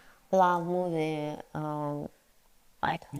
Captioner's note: speaks in foreign language